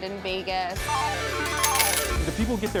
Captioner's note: slot machines spin